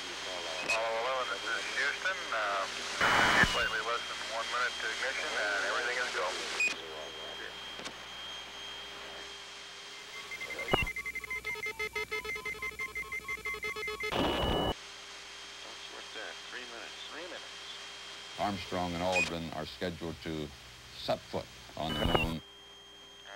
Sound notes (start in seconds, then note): 10.0 beeping